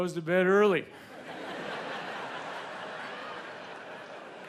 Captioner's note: audience laughs